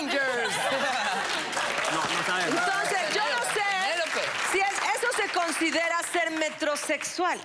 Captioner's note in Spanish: Risas